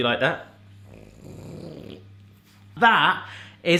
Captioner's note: grunting